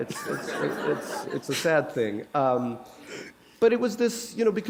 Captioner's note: laughter